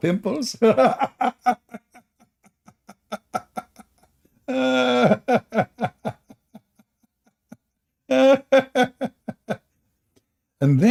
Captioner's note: Ketawa